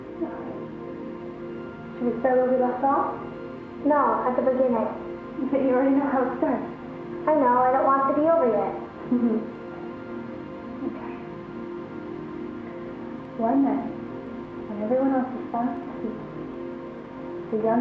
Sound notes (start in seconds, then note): 9.0 chuckles